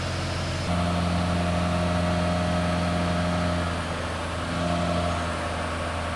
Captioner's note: engine accelerating and decelerating